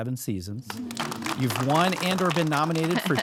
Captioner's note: audience clap